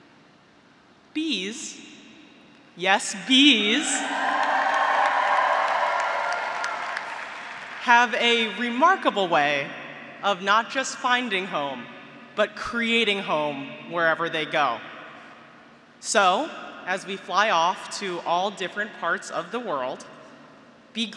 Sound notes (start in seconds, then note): 3.3 graduates cheering; 3.6 graduates applauding